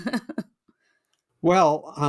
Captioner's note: chuckles